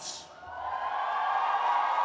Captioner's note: cheers and applause